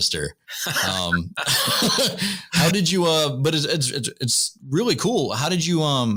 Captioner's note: laughter